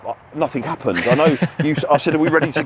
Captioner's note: laughing